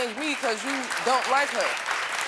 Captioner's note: audience applauding